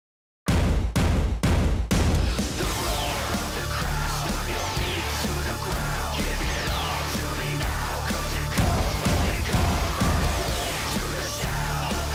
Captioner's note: crowd cheering